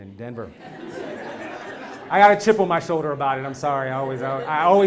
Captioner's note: laugh